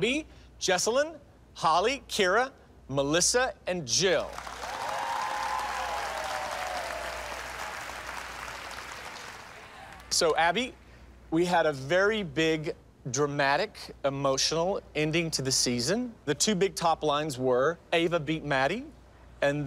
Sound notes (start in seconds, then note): 4.4 whooping, cheering